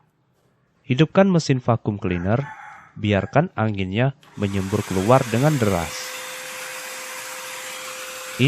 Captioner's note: turn on the vacuum cleaner